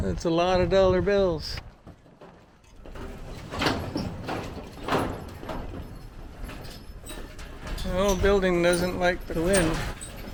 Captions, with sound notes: That's a lot of dollar bills! [wind making metal roof bang] This old building doesn't like the wind